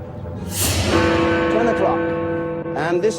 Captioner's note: clock chimes